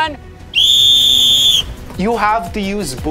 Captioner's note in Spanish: silbato